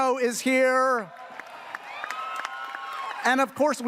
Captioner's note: audience cheering